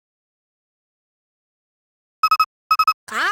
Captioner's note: silence